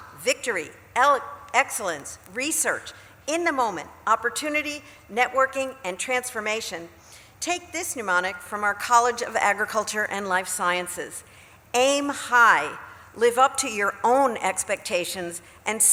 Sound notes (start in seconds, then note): none